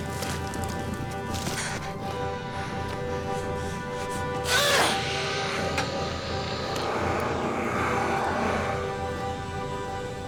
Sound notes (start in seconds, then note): 4.2 grunts; 5.2 dragon roars